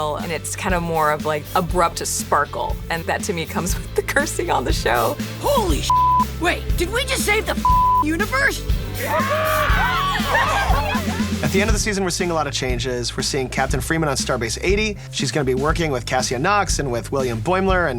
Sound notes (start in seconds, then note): 5.8 beeping; 9.0 everyone cheering